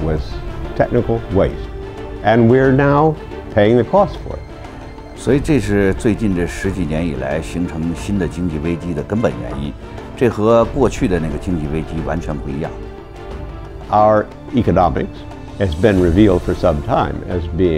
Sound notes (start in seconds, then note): 5.4 speaks in Chinese